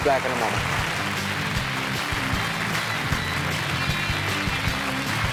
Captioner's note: applause